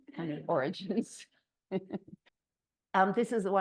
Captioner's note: laughs